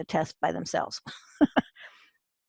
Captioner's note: chuckles